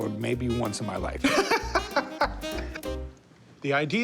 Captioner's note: laughs